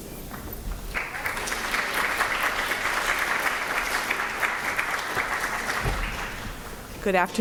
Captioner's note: applause